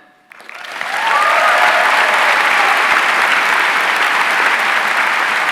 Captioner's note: audience cheering and applauding